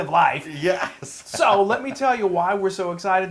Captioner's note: laugh